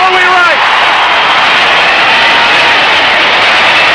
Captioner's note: crowd cheering